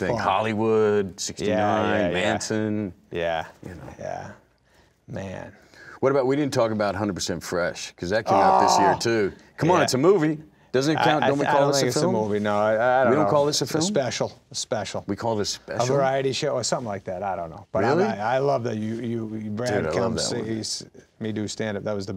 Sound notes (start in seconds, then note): 8.3 Adam groans loudly